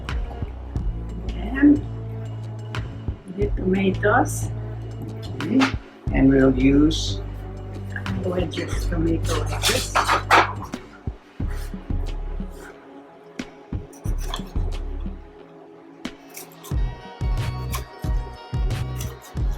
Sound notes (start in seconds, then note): 9.3 plates clattering; 16.1 knife slicing